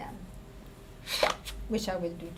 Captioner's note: air blowing